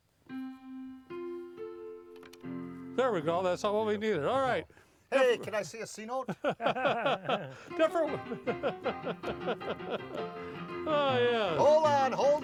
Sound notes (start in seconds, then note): 0.2 piano plays; 6.2 laughing; 7.6 ragtime piano playing